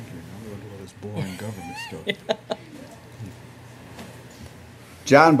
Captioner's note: laughter